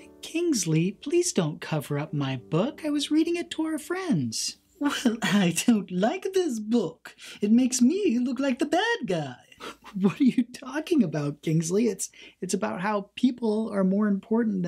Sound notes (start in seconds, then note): 9.4 laughs quietly